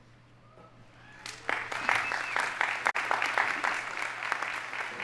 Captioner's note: audience applauding